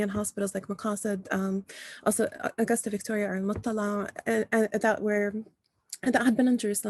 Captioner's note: non-english speech